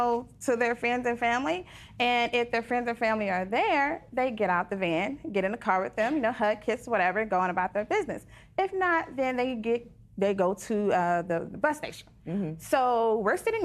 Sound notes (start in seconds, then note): none